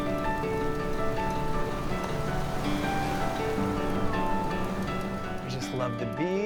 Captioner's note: waves lapping; gentle twinkly music; birds singing